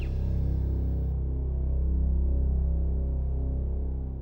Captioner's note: electrical humming